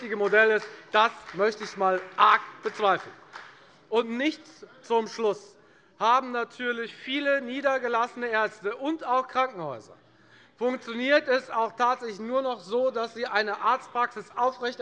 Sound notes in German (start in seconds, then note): 3.7 Beifall bei der FDP